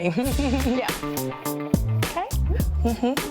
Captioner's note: chuckling